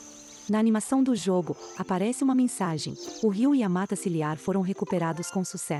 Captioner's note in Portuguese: Pássaros